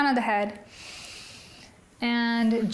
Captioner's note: inhales